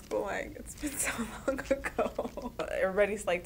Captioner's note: chuckling